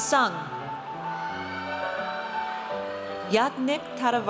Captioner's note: audience cheers